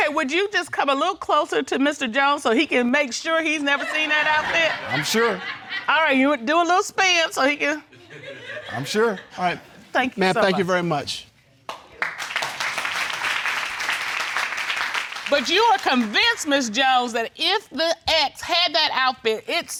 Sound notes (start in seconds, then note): 3.8 audience laughing; 11.6 audience clapping